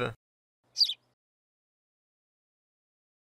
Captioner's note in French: chant d’oiseau